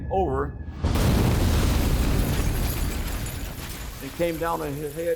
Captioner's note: bomb exploding